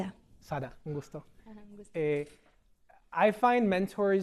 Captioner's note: speaking spanish